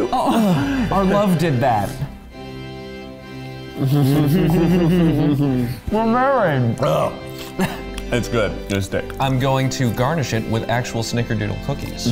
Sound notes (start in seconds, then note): 6.8 burps; 6.8 laughing